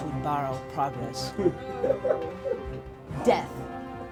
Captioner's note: player laughs